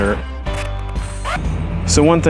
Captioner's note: fast-forward squeal